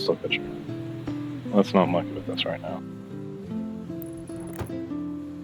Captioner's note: air canister